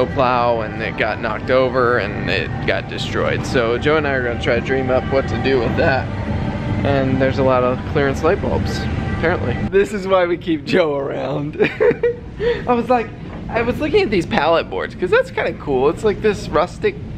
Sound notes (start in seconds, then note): 11.5 laughing